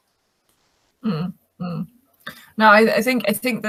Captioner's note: humming